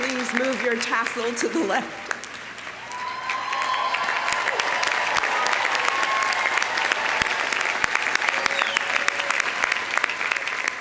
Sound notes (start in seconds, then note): 2.7 audience cheering; 3.6 audience applauding